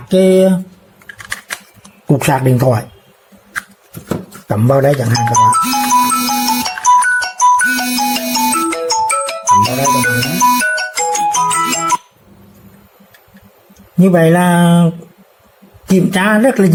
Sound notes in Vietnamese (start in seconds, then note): 13.0 chuông